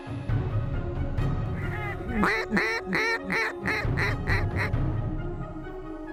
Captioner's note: duck calls